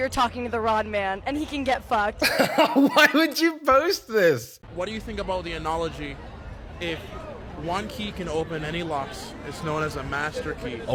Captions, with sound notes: you're talking to the wrong man. And he can get fucked. - (laughs) Why would you post this??? - What do you think about the analogy, if one key can open any lock, it's known as a master key,